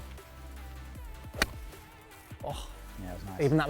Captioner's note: golf club hitting ball